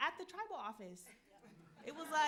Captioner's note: audience laughing